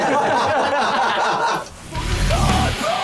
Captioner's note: laughs